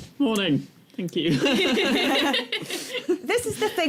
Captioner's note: laughter